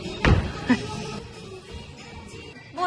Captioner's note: laughs